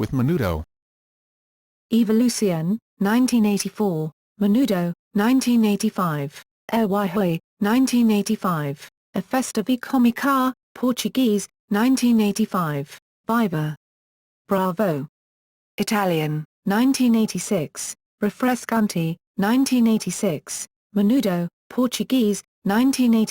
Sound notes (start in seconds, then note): 16.1 Italian